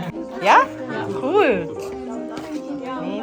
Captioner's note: speaking German